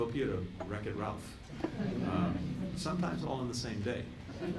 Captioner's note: laughter